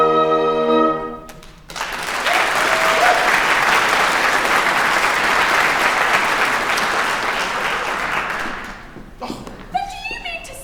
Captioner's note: applause